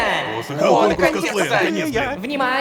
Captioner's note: Excited sounds of participants